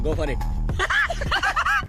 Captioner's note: laughing